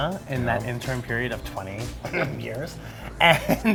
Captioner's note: coughing; laughing